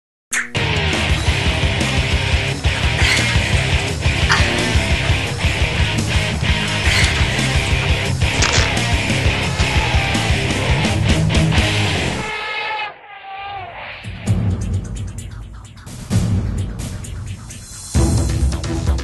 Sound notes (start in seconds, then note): 0.1 rock music; 0.1 whip; 2.8 struggling, gasping; 10.8 creature trumpets; 10.8 whip, crunch, creature roars